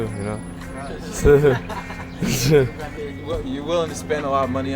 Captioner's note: chuckles